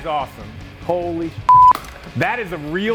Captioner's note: beeping